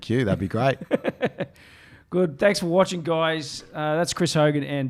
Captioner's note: laughs